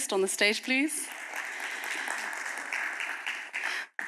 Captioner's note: applause